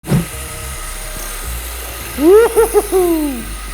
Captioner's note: toy car buzzes; chuckles